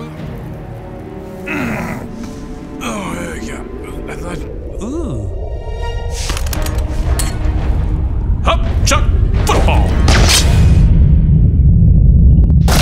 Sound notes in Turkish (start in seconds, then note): 1.4 Mırıldanma